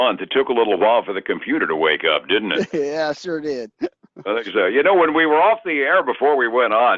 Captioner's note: laughs